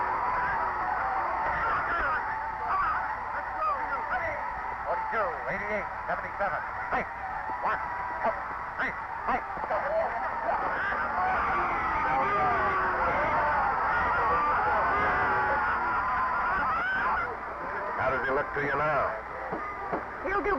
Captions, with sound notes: - 42, 88, 77, hike. - One, two, three, hike. (referee whistling) (crowd shouting) - How does he look to you now?